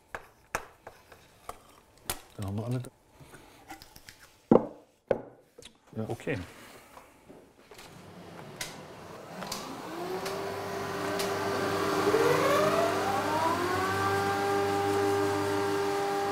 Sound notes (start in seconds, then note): 10.2 loud machine noise